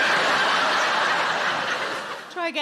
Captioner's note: audience laughing